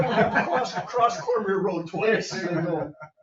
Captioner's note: members laughing